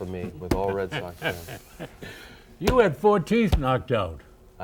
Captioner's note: laughs